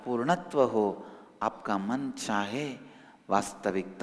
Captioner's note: hindi